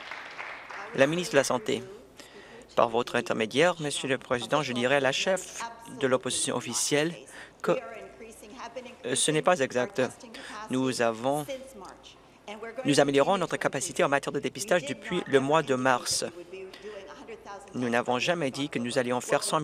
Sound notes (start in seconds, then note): 0.0 applause